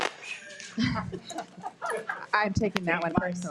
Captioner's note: participants laughing